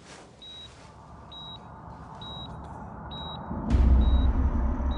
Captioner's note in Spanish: Bip del monitor